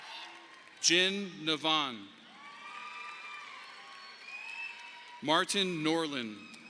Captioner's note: audience applauding